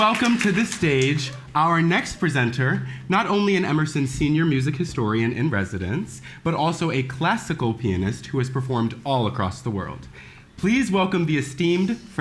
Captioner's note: applause